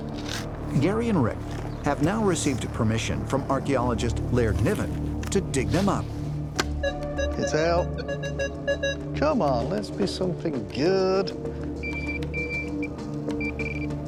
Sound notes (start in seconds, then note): 6.8 beeping; 11.8 beeping